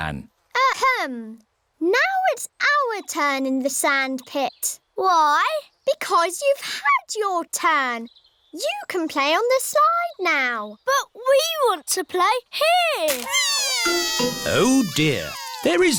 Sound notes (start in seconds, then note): 13.2 crying